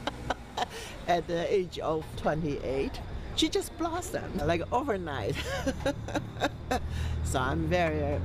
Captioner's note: laughs; laughs